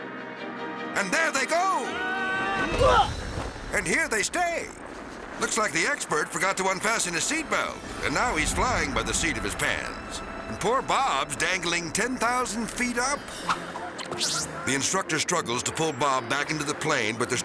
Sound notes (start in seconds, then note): 1.6 screaming; 1.9 both grunt; 3.1 both thud; 13.3 rewind screeching; 13.3 whimsical music